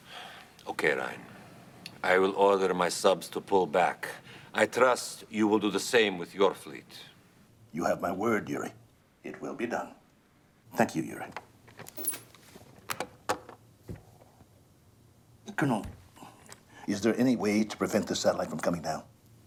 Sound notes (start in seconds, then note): 12.8 door open close